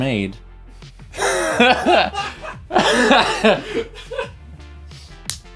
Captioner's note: laughs